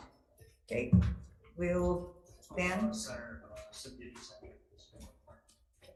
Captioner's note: member chattering